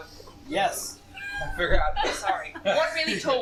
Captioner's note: laughter